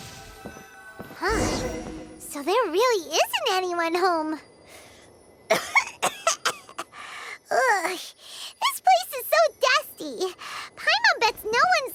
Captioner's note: cough